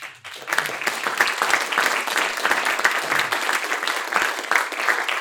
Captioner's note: audience applauds